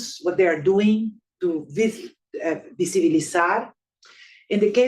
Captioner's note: speaking Spanish